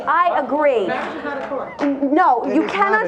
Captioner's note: audience murmuring